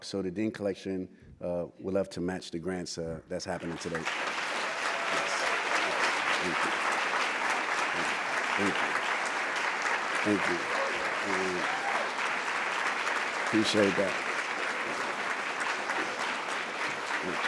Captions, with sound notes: So the Dean Collection will have to match the grants that's happening today. [APPLAUSE] Thank you. Thank you. Appreciate that.